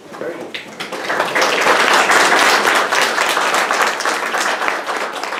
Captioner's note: audience applauding